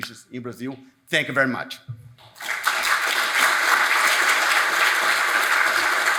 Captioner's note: audience applauds